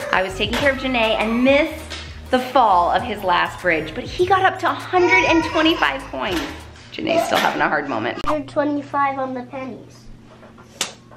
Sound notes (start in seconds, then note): 6.5 crying; 10.9 claps